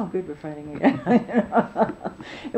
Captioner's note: laughing